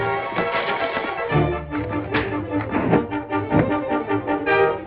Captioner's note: punch thuds